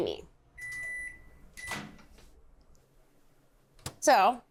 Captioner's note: microwave beeping